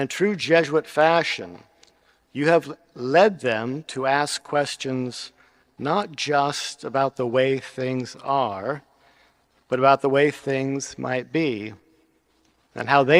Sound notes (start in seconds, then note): none